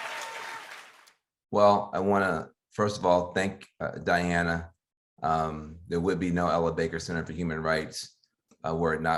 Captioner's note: applause